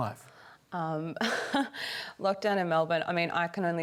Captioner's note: chuckles